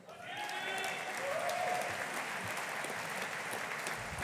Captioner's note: audience applauding